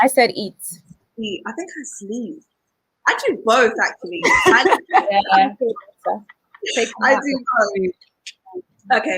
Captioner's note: all laugh